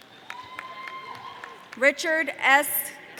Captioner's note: audience cheering